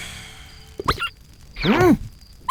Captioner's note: sighs; toy squeaks